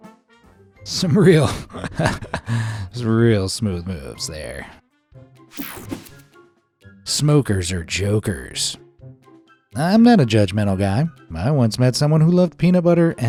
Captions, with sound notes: Some real, (laughs) real smooth moves there. "Smokers R Jokers." I'm not a judgemental guy. I once met someone who loved peanut butter